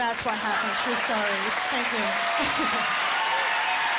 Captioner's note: laughter and applause